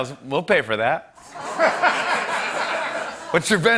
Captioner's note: laughter